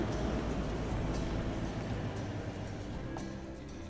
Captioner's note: engine slows to a stop